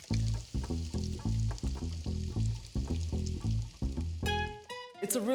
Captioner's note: speaking in greek; sizzling